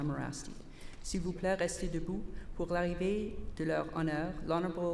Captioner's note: repeated in French